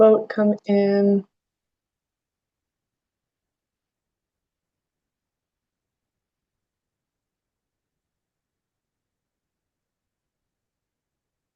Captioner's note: pause